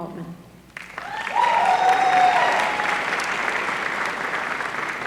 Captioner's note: applause